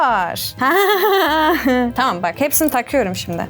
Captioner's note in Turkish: gülüyor